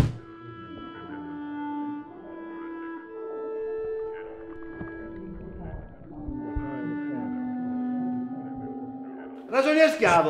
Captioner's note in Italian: risate e musica misteriosa